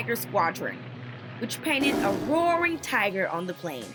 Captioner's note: tiger roars